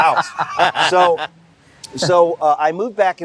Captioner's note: laughter